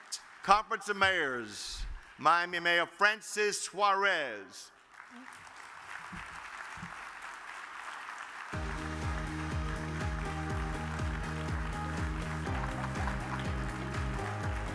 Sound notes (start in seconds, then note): 5.1 audience claps; 8.5 upbeat music